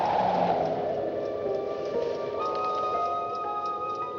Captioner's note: wind Whistles